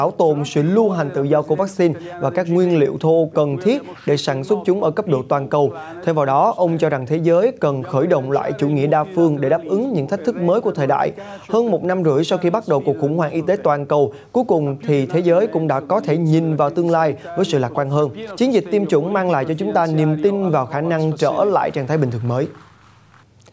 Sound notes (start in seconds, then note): 7.7 Italian